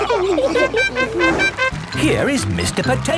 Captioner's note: all laughing; horn tooting